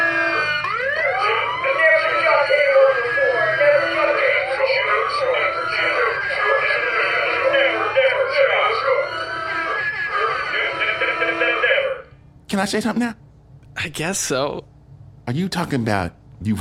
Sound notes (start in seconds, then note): 0.0 boisterous laugh; 2.6 alarm blares